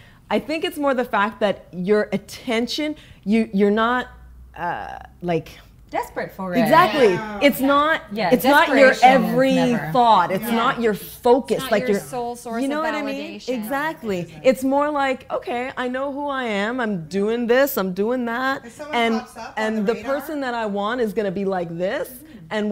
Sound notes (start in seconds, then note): 6.6 women agreeing